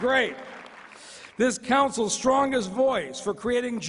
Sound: applause

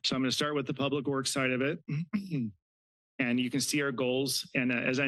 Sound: clears throat

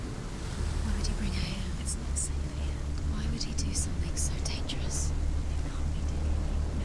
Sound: whispering

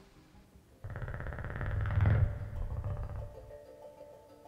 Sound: Sound of Geryon's echolocation

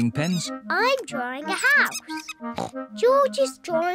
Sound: oinks

